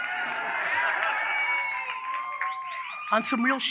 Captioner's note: audience cheers